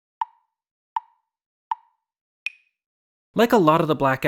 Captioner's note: tick tick tick tick tock